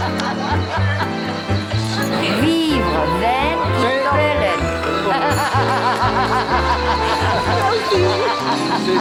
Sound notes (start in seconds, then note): 2.2 non-english speech; 4.6 laughing